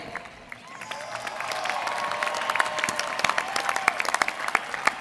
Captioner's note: applause